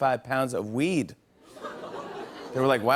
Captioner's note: laughter